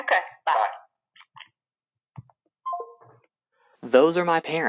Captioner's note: line disconnects